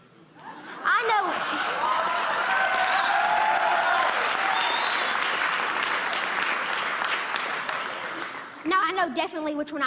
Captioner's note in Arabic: تصفيق